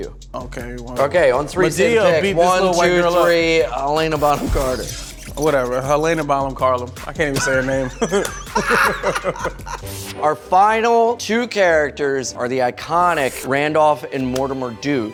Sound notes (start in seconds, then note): 7.3 laughing